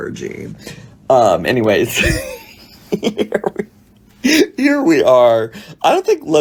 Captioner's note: laughs